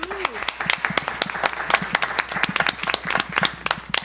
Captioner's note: audience applauding